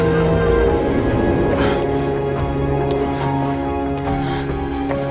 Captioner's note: gasping